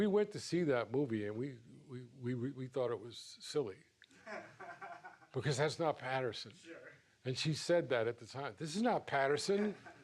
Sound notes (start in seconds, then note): 4.2 laughs